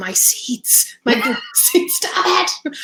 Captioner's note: voice muffled